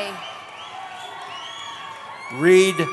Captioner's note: cheering